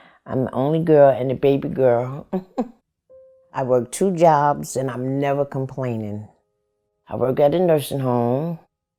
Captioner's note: chuckles